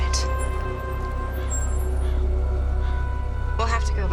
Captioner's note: bell